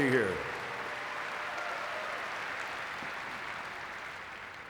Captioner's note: audience clapping